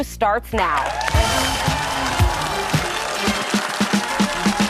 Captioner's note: audience cheering; upbeat music